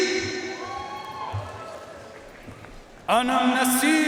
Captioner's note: audience cheering and applauding